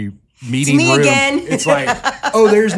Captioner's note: laughs